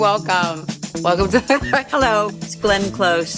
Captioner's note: laughs